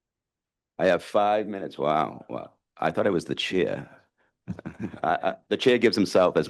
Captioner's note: laughs